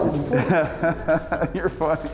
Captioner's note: laughs